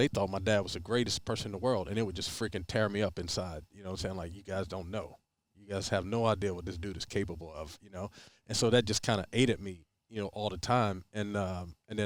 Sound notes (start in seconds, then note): none